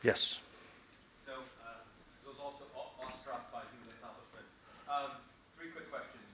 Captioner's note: off mic